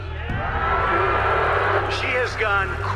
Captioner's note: crowd booing